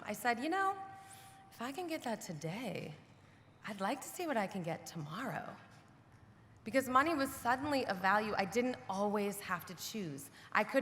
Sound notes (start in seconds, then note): none